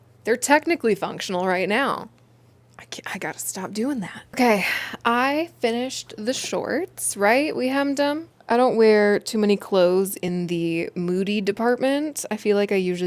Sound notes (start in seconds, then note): none